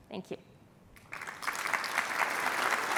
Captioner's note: applause